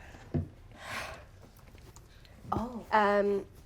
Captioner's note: sighs